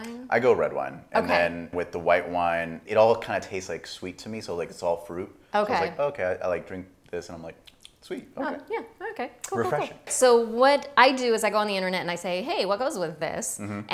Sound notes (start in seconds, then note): 7.6 smacks lips